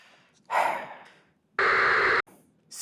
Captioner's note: sigh